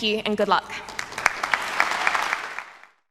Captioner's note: applause